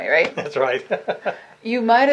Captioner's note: laughs